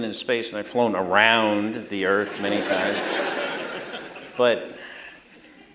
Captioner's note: laughter